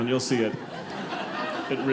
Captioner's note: audience laughing